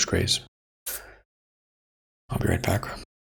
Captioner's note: silence